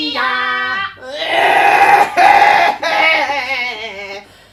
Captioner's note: coughs